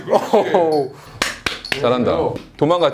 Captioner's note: clap clap